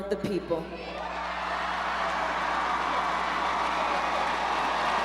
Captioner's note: crowd cheers